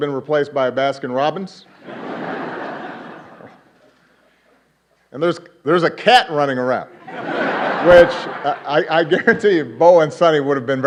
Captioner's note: laughter